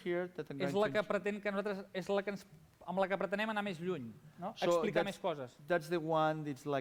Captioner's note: non-english speech